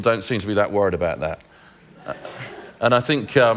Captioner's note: laughter